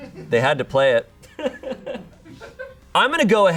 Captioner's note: audience laughing